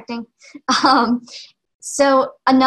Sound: laughing

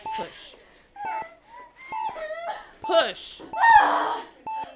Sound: Robin crying

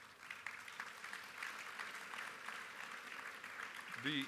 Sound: applause

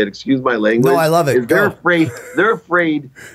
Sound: chuckle

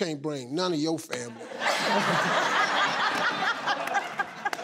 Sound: laughing

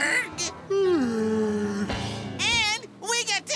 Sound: yawning

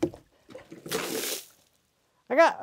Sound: water splashes

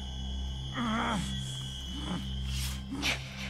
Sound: grunting

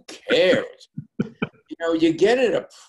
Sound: laughs

